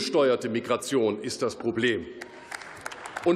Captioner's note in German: Beifall